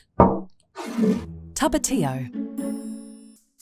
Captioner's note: bottle thuds and scrapes